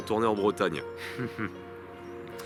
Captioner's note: laughs